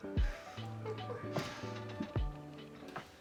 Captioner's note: laughing